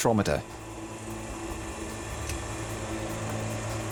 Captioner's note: spectrometer whirring